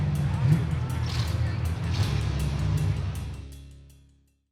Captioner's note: engine revving